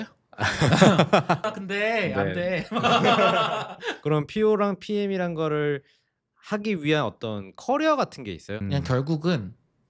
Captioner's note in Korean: 웃음